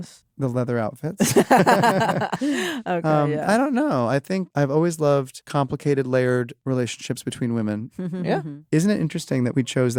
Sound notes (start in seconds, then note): 1.2 laughter